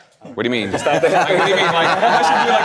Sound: group clamoring

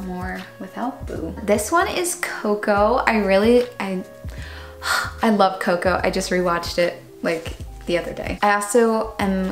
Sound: breathes

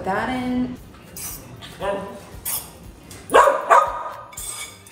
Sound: Gus barking

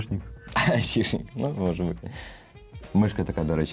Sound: laughs

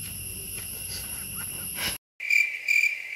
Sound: laughing

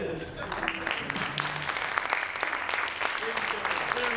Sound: audience applauding

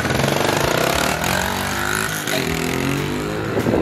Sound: engine revs

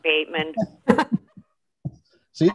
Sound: laughing

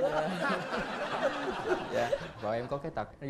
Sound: laughing

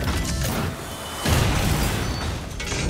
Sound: character slamming

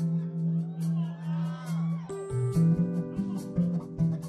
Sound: audience cheering

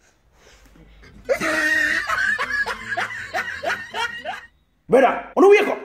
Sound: crazy laughter

